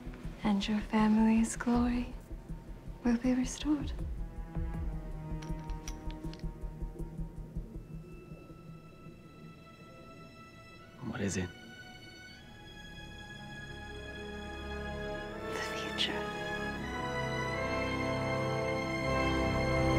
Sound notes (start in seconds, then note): 5.4 glass clinks